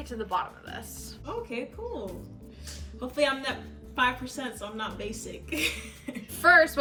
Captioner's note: chuckles